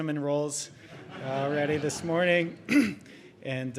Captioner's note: audience chuckling; clears throat